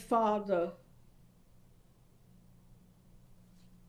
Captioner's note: pauses for 7 seconds